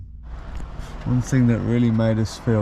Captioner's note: rain pattering